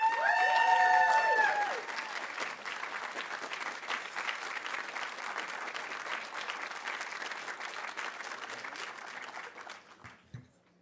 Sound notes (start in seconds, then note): 0.0 audience cheering; 0.0 audience applauding